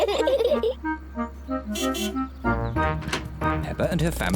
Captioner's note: both giggle; honks horn